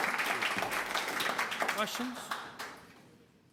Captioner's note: applause